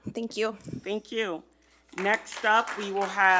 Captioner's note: audience applauding